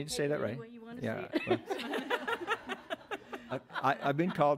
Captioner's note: audience laughs